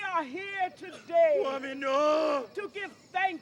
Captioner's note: man calls out in grief